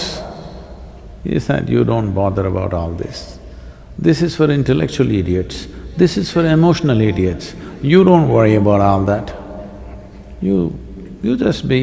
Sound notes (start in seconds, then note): none